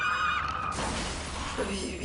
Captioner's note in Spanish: Gritos; Estruendo